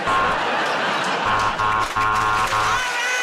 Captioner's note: buzzer